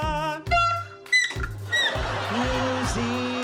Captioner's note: toot! squeak! squeak!